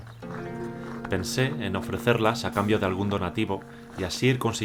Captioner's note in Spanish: Voz en off